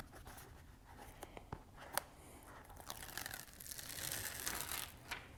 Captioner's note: materials shuffling